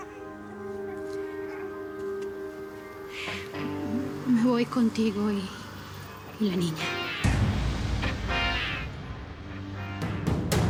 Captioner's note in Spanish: Llanto del niño